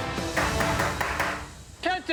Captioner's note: tapping